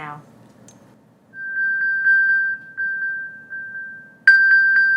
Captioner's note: phone beeping